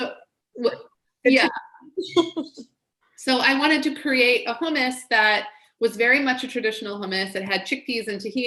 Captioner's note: laughs